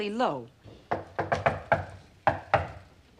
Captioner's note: knocking on door